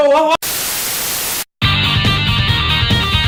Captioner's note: static; rock music